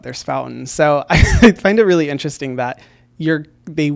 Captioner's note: laughs